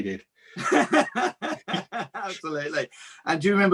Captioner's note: laughs